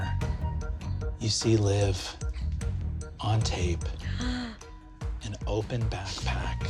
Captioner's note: gasps